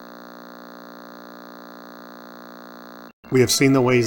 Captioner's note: Static